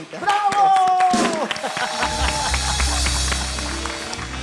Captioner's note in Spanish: Aplausos